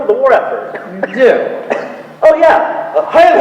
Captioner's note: coughing